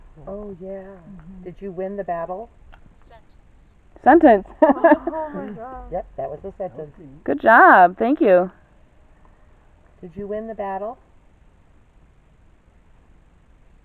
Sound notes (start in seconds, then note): 4.4 laughter